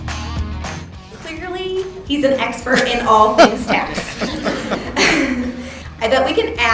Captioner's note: laughs